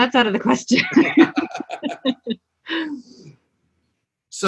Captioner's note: both laugh